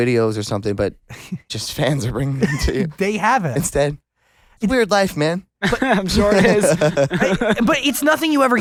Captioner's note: laughs